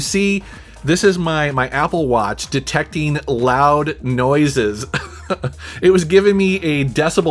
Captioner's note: laughing